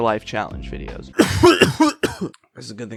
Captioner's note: coughing